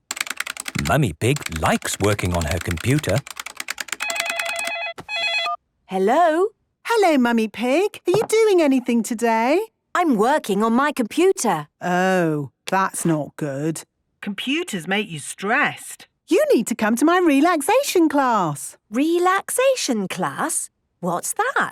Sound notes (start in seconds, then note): 3.9 phone ringing